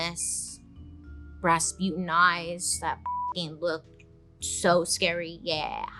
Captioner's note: beeps